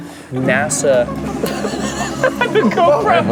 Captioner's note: cracks up